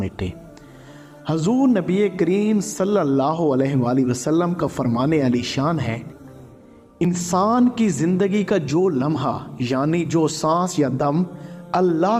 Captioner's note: breath, breath